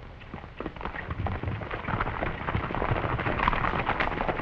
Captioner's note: hooves clattering